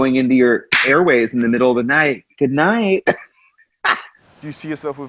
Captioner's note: laughs